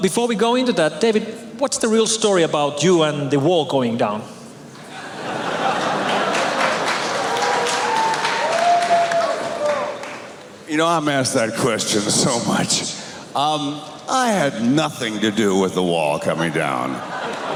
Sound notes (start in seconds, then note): 6.0 applause and cheers